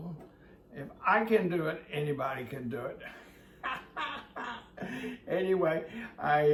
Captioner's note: laughs